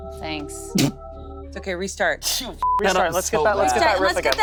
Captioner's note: beep